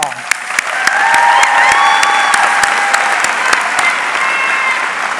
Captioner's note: audience cheering